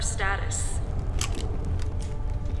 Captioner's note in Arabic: أصوات بندقية ميكانيكية